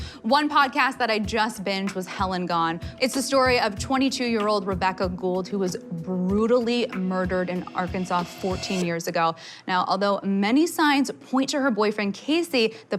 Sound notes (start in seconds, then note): none